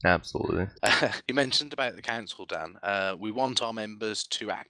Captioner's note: laughing